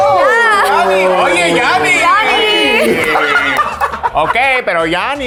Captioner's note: group cheering; group laughing; speaking Spanish